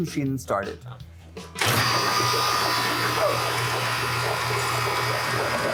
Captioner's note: machine whirring